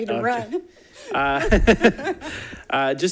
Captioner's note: laughs